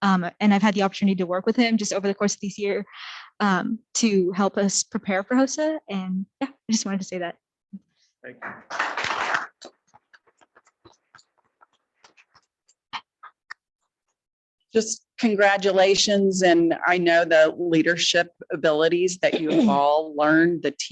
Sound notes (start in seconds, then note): 8.3 attendees clapping